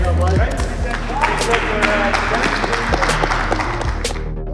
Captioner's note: all applauding